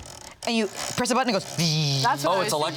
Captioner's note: imitates whirring